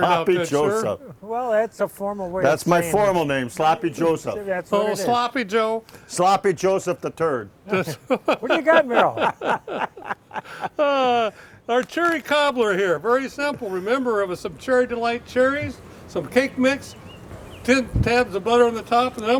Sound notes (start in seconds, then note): 7.6 man laughing; 10.3 men laughing